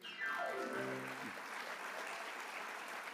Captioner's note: applause